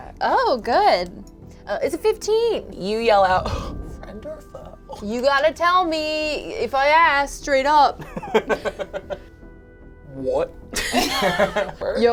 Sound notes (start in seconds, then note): 8.2 laughs; 10.8 all chuckle